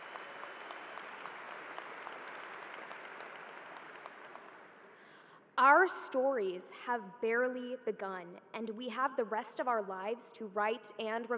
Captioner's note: applause